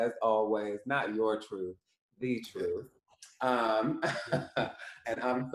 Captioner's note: laughs